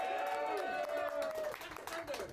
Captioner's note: audience cheering